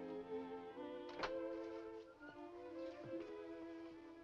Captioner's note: door opens